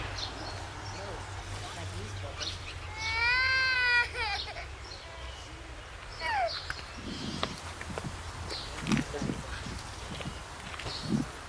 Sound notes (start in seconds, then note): 0.1 elderly rambling; 2.8 wailing